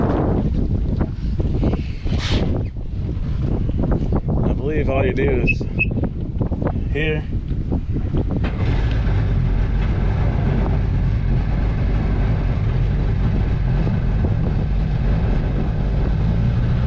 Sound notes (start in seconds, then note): 8.4 motors starting noise